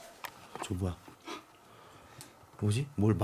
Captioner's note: snort